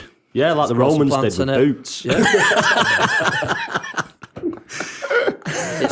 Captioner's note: laughter